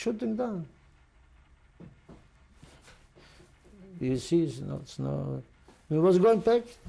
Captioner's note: pauses for 3 seconds